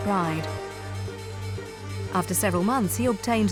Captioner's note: bell ringing